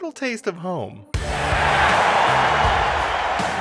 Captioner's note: crowd cheers